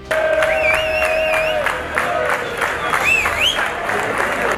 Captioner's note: crowd cheering